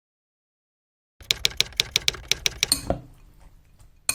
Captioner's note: typewriter tapping